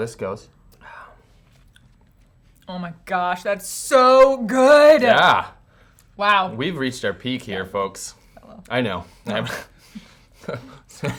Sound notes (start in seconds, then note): 8.2 faintly speaking; 10.3 chuckles